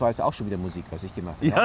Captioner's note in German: lacht